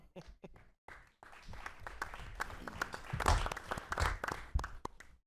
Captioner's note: applause